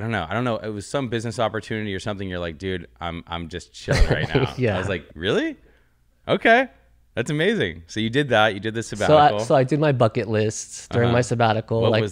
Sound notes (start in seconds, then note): 3.8 laughs